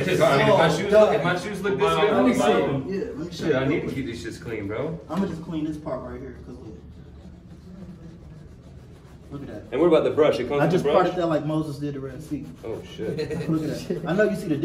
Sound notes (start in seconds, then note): 7.3 scrubbing; 12.9 laughing